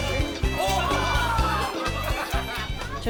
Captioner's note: laughs